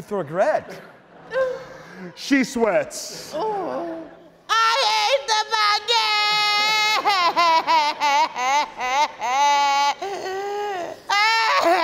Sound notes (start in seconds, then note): 6.5 weeps